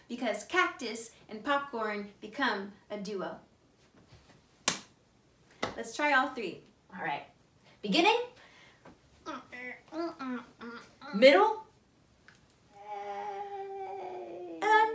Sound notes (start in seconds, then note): 4.6 hands clap; 9.1 grunts